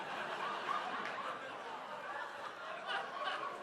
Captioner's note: audience laughs